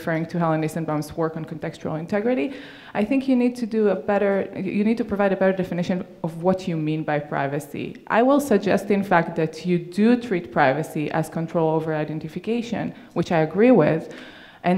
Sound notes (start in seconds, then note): none